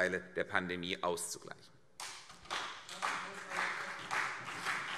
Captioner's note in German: Beifall CDU und BÜNDNIS 90/DIE GRÜNEN